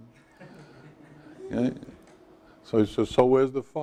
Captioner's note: students laugh